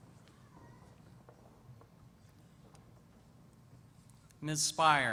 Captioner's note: pause